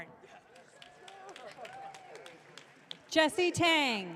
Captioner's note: audience cheering